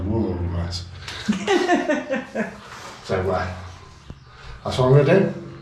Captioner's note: laughter